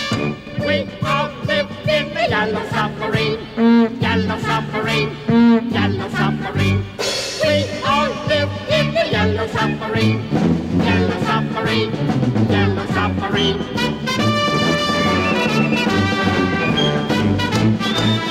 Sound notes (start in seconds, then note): 4.9 horn honking; 6.5 cymbals crashing